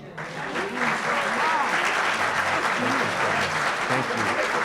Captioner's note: applause